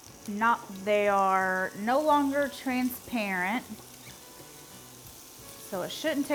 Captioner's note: pan sizzles